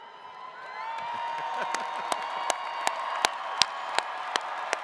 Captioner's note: attendees cheering and clapping